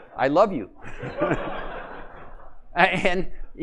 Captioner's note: laughter